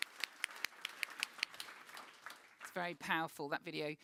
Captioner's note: audience claps